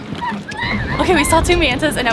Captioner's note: excited screaming